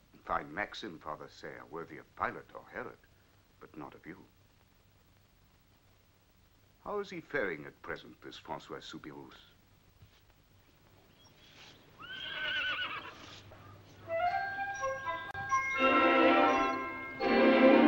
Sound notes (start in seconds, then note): 12.0 horse neighing; 14.1 happy music